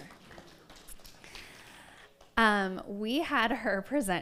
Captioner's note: audience applauds